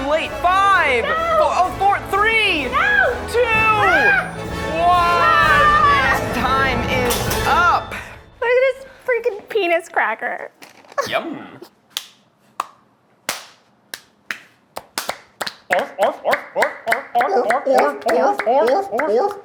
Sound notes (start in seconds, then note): 13.2 hands smacking; 15.7 Eugene mimics squealing barking; 17.3 Keith and Eugene mimics squealing barking